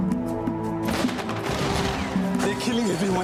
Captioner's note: gunfire